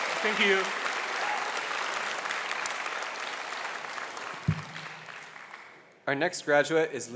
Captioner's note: applause